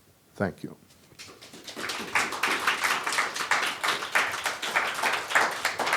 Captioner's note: applause